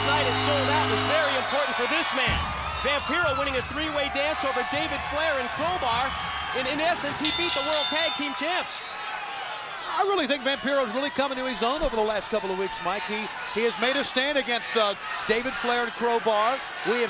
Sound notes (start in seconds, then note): 6.3 bell rings